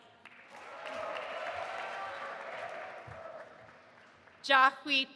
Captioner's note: audience applauding and cheering